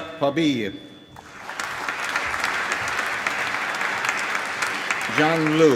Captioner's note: applause